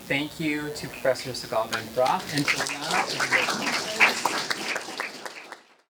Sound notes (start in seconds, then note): 2.0 applause